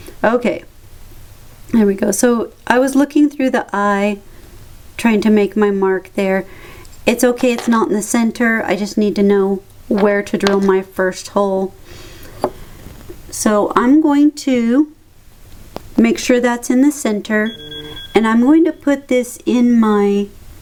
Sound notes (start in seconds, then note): 17.5 ping